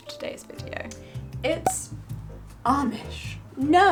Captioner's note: air popping